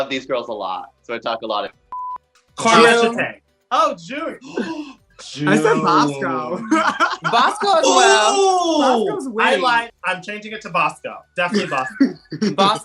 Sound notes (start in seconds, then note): 4.4 gasp